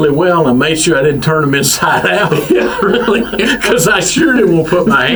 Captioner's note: laughs